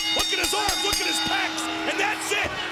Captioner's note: bell dinging